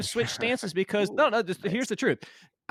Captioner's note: laughs